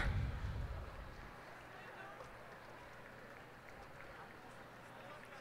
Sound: cheers and applause

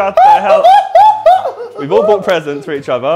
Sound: JJ screaming and laughing

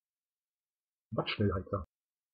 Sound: fast Pronunciation

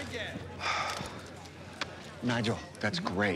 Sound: sighs

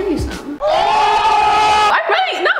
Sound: yelling loudly

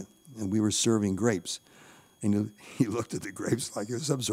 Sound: chuckling

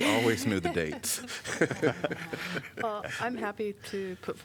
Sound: laughter

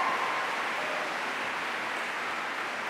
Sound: applause

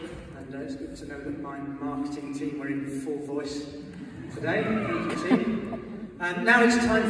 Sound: laughter

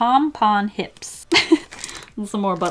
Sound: laughs

